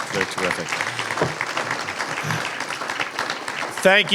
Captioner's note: applause